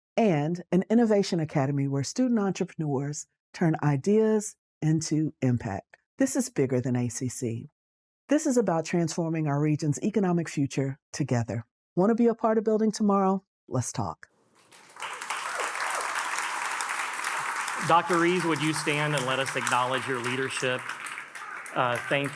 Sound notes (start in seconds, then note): 14.6 attendees cheering and applauding